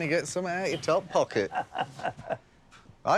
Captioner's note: laughter